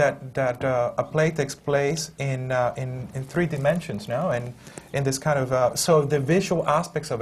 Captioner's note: none